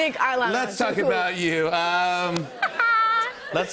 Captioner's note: laughter